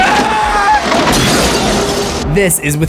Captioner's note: screams